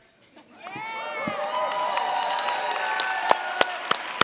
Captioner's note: cheers, applause